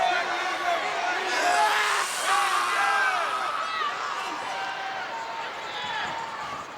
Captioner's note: crowd cheering; Renegade screaming